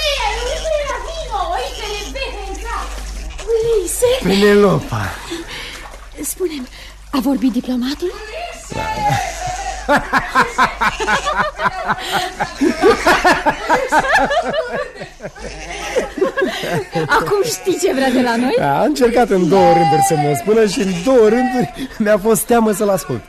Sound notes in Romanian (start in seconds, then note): 8.7 Râsete